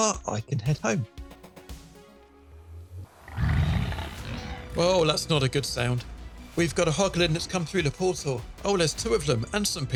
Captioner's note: Hoglin growls